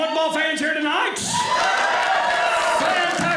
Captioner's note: audience cheering